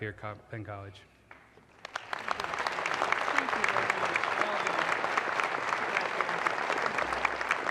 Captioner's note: audience applause